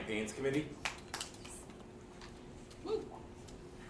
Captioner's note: attendees clapping loudly